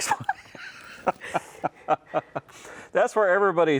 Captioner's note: both laugh